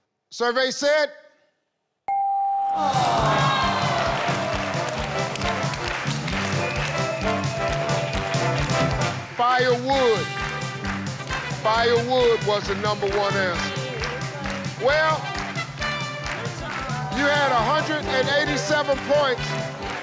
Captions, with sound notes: Survey said. (tone dinging) (teammates groans) (audience clapping) Fire wood, fire wood was the number one answer. Well, you had 187 points.